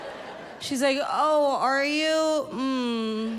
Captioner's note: moans